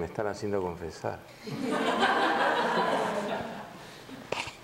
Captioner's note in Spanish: risas